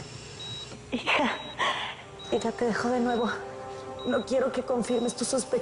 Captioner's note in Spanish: Bip en el monitor; Sollozando